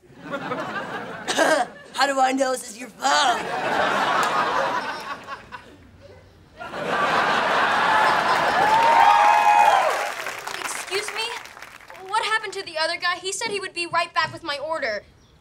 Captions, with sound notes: [laughing] How do I know this is your phone? [laughing] [cheering] Excuse me, what happened to the other guy? He said he would be right back with my order!